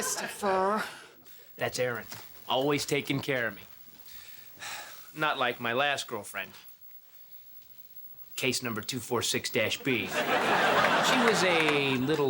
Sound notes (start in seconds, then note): 2.9 sighs